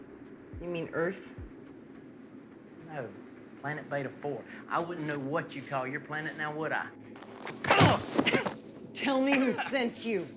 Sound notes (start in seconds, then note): 7.6 groans